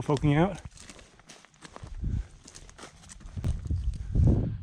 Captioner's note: gravel crunching